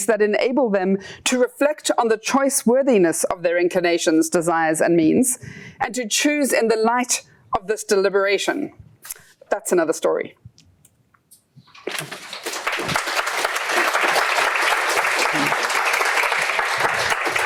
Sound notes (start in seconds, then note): 11.8 applause